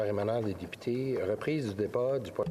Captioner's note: speaking French